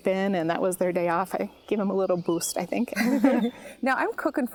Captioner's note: laughs